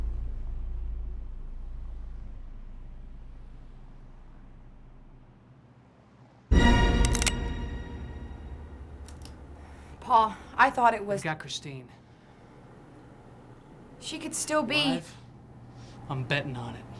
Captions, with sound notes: (suspenseful music) (gun clicks) - Paul, I thought it was- - They got Christine. - She could still be- - Alive? I'm betting on it.